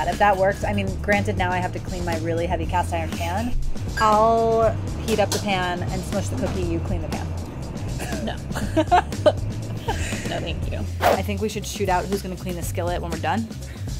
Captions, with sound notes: If that works, I mean granted now I have to clean my really heavy cast iron pan. I'll heat up the pan and smoosh the cookie. You clean the pan. - No. (laughs) No, thank you. (air whooshing) - I think we should shoot out who's gonna clean the skillet when we're done.